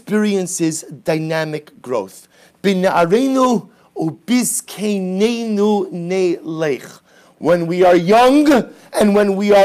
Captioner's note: Hebrew